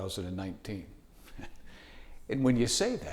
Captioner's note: chuckling